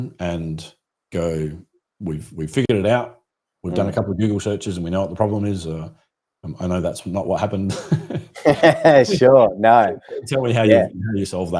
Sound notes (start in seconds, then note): 7.6 laughing